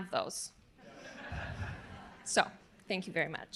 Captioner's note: audience laughing